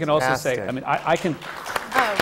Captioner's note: applause